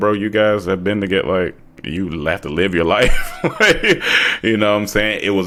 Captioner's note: chuckles